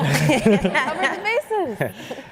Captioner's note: laughter